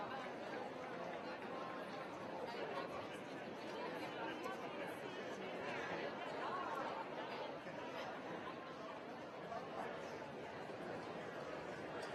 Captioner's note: crowd chatter